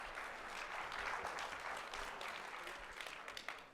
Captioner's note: applause